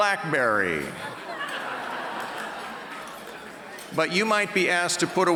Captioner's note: audience Laughter